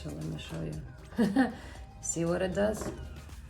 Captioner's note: laughs